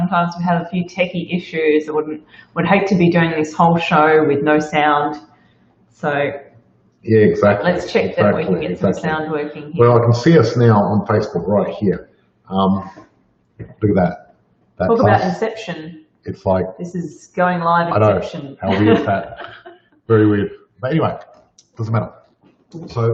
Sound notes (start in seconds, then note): 18.6 laughs